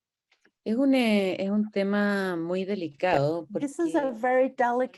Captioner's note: speaks foreign language